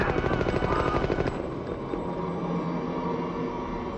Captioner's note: gun fires; groaning